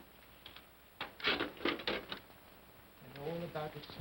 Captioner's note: coal pellets clatter